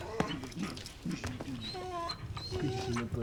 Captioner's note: dog whimpering